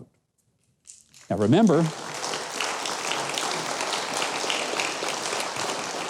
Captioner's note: audience applauding